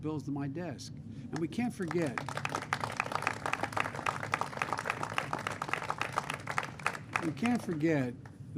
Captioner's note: applause